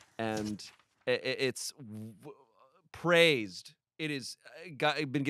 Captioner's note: none